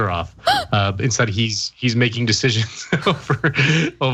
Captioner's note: laugh